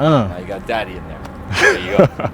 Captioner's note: laughing